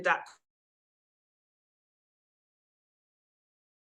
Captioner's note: audio cuts out